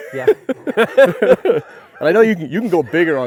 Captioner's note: both laughing